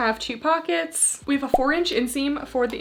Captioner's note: graphics beeping